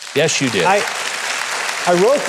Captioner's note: audience applauding